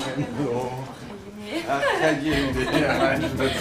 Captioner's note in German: lacht